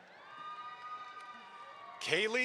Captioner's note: audience applauds